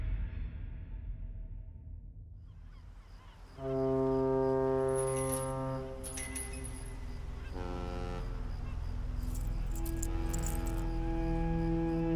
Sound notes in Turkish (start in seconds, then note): 3.5 Vapur düdüğü çalıyor; 8.9 Gerilim müziği